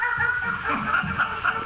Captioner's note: Willie barks; Santa laughs